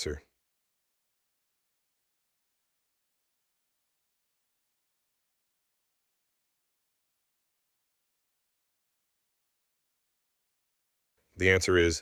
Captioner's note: no audio